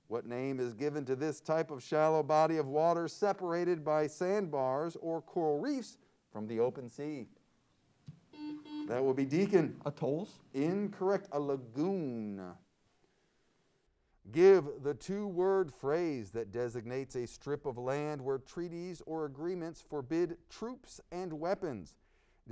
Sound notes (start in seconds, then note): 8.3 buzzer sounds